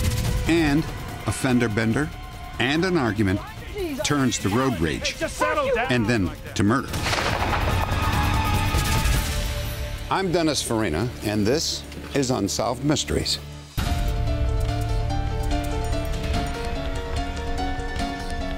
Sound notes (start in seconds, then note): 6.9 gunshot; 13.7 theme music